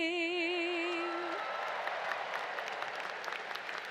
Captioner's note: applause